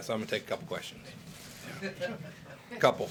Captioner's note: laughter